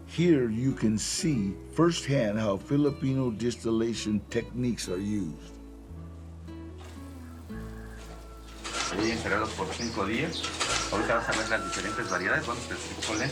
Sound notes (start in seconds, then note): 6.8 rooster crows; 8.9 man 7 in Spanish